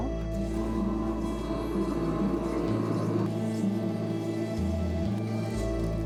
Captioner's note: soft music; pottery wheel grinding